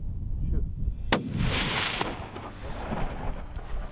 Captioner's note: gunshot